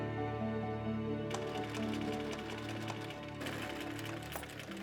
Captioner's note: sewing machine stitching